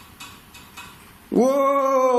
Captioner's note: tapping